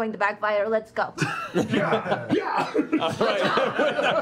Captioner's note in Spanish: risas